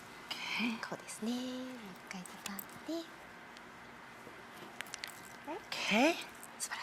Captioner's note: Marie Kondo speaking Japanese